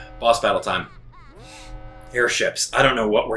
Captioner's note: alarm blaring; Bowser Jr. Laughing